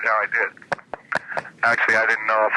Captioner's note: laughing